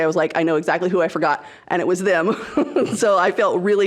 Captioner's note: laughs